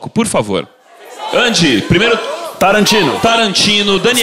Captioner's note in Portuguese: plateia dá sugestões